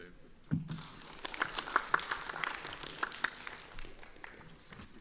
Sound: audience applauds

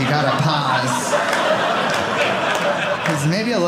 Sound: audience laughing

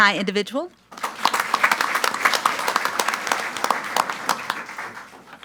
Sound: audience applauds

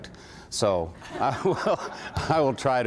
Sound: laughter

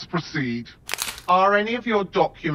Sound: plastic rustling

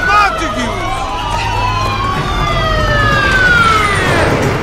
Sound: sirens approaching; cars stopping

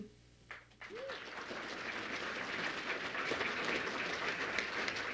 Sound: audience applauds

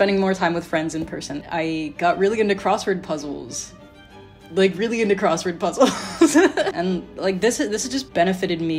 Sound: laughing

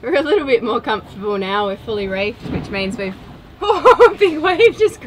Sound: laughs

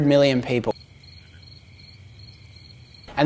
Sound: crickets chirping

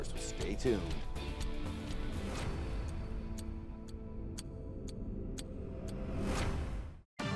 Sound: upbeat music; clock ticks; energetic music

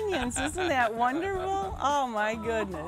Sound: chuckling

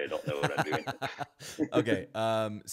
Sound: laughs

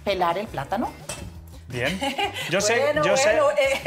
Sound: laughs

